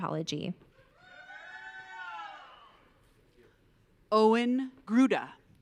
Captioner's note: audience cheering